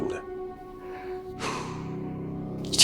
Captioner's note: sighs